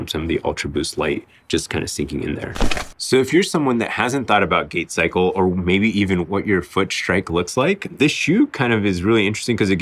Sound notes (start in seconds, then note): 2.5 paper crumpling